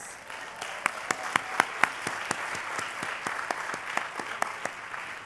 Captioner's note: applause